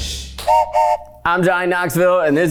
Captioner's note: whistle blows